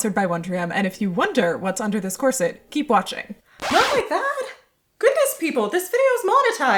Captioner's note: record scratch